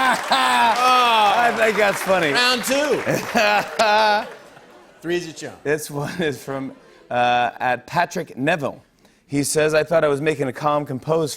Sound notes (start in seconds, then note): 2.9 laughs